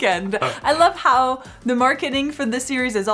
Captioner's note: both laugh